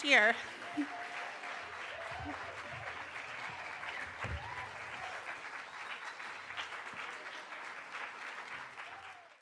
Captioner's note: applause